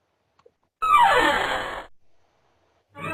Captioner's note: sound of door hinges